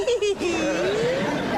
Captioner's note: laughter